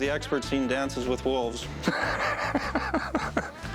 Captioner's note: laughs